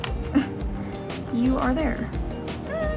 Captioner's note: laughs